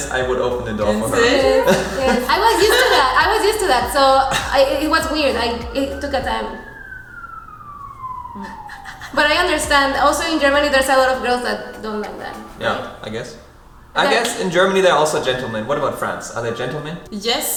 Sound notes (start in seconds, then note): 7.5 alarm